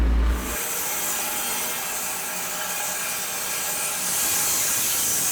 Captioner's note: sawing machine whirring